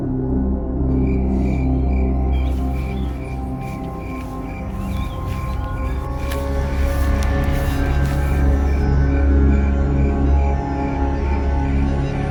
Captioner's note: sinister spooky music; crickets; sinister spooky music